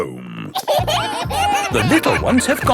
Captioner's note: kids giggling